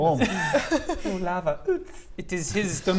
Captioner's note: tsst